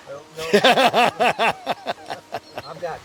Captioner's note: camera holder laughs